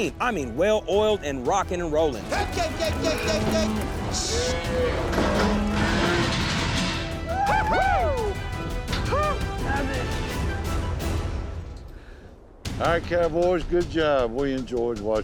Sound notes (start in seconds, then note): 6.8 clanking shut; 8.2 cowboys all cheer